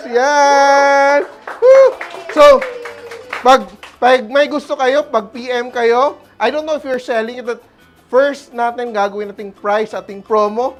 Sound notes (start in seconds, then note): 1.0 applause; 1.2 cheers